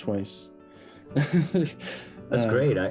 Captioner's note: chuckles